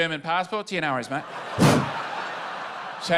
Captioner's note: laughter; whoosh